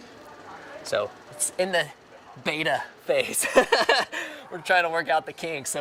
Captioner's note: laughing